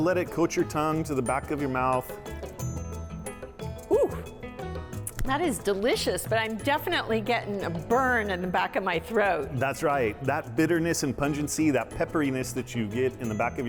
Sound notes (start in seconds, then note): 3.9 exclaiming